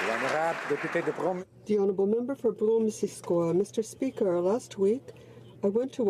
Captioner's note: applause